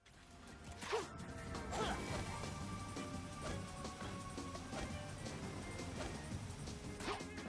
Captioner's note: Sonic noises